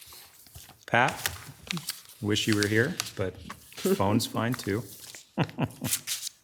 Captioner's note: chuckles